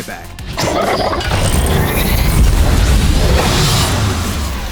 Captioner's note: 2Bells growling